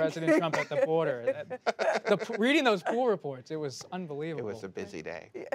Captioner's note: laughter